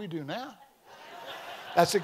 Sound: congregation laughing

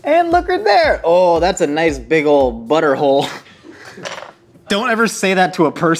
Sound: giggles softly

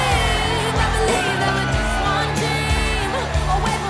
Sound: chuckles

